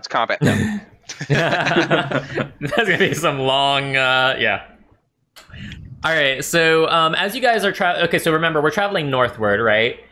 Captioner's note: laughter